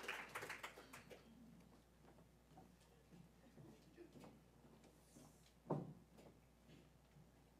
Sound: applause

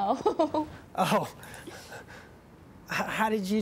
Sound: laughs

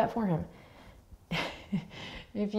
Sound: laughs

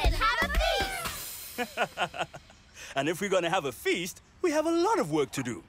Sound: chuckles

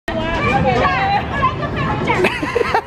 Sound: chattering; laughing

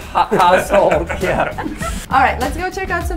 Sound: all chuckling

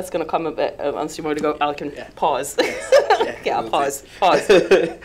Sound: laughs

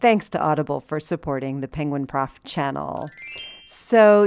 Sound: bells sound

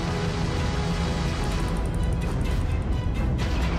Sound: yelling

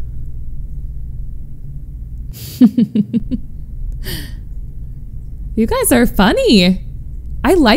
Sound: laughs

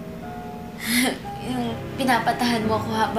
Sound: chuckles

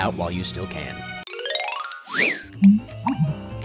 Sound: chime, whistle; two-toned glug

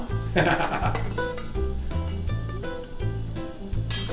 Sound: laughs

